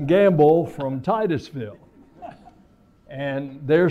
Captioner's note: laughter